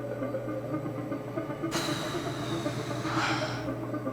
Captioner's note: sighs